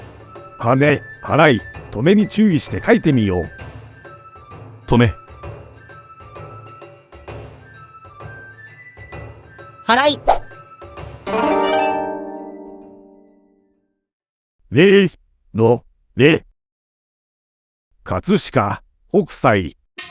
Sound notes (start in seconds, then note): 10.0 sweeping